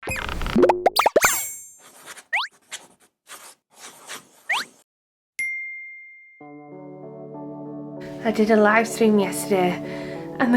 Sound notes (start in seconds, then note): 0.5 bubbles popping; 6.4 gentle music